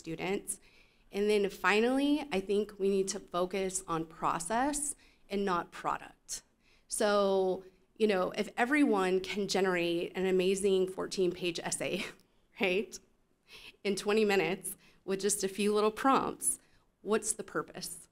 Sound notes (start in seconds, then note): 12.0 chuckle